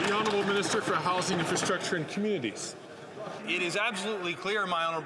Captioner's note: some Applause